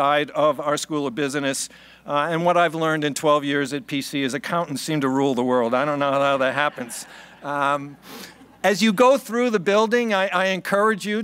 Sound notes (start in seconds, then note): 5.8 laughing